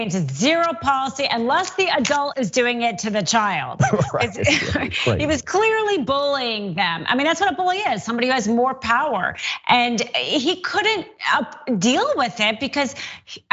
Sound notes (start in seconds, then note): 3.8 laugh